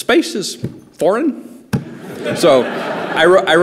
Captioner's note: laughter